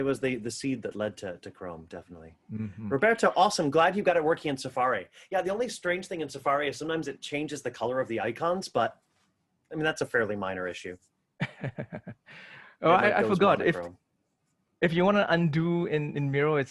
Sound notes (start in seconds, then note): 11.4 chuckles